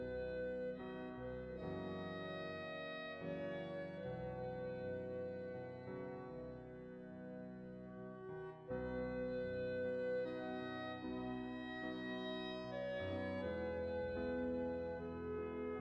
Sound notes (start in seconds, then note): none